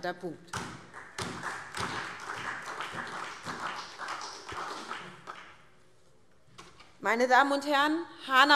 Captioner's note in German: Beifall SPD